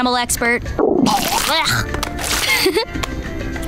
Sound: chuckles

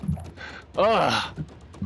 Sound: exhale

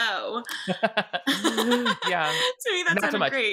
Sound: laughs; both laughing

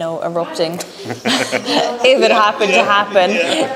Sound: laughing

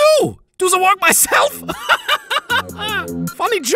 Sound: laughs

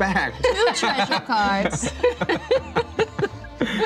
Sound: laughter

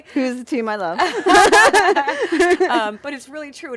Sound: laughing

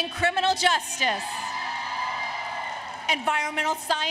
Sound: applause, Cheering

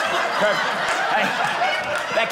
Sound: audience laughing

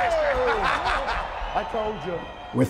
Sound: laughing

